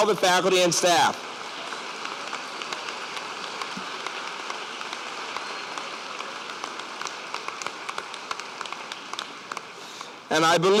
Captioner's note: applause